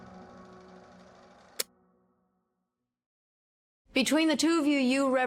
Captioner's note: film reel clicks off